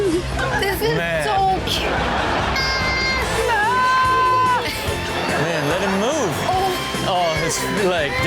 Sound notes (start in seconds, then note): 0.1 audience laughs; 3.5 kids cries no